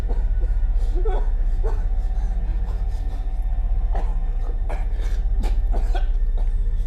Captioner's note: gentle tense music; victim whimpering